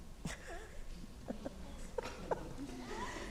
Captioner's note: laughing